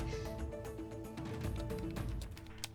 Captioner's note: breathe